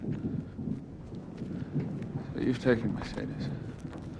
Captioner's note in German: Donnergrollen